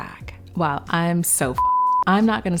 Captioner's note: beeping